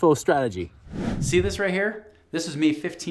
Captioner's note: air whooshing